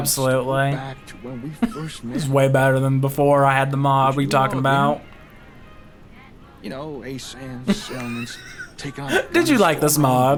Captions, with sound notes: Absolutely. This is way better than before I had the mob. What are you talking about? (laughs) Did you like this mob?